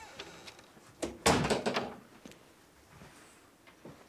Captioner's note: door closes; door creaks